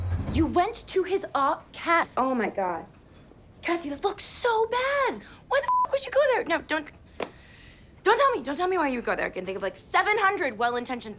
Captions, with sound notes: - You went to his office, Cass! Oh my god. Cassie, that looks so bad! Why the (beeps) would you go there? No, don't, don't tell me, don't tell me why you would go there. I can think of like 700 well-intentioned